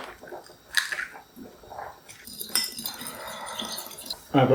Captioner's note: egg beating sounds